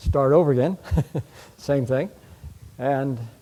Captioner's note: chuckles